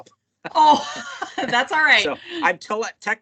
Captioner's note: laughs